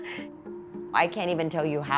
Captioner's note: laughing